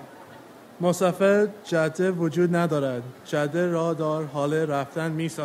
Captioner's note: speaks in foreign language